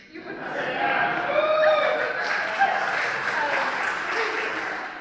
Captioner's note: cheers